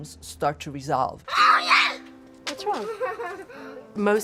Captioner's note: child yelling